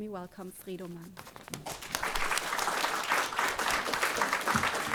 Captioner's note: audience applauding